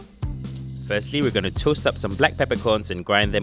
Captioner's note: voiceover